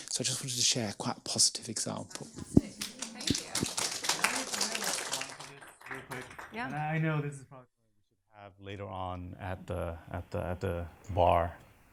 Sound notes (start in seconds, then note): 2.7 audience applauds